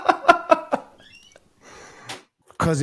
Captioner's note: both laughing